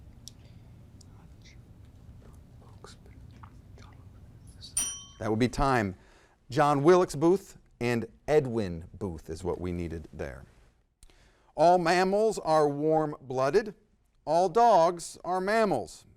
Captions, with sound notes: (faintly speaking) (bell ringing) - That would be time. John Wilkes Booth and Edwin Booth is what we needed there. "All mammals are warm-blooded. All dogs are mammals.